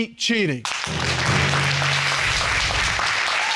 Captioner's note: audience applauds